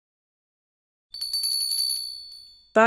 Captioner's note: doorbell jingles